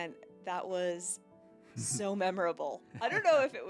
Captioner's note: laughs